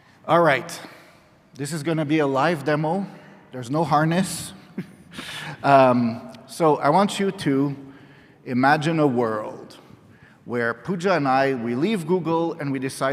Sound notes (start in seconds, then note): 4.9 laughs